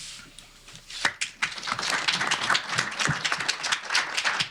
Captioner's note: applause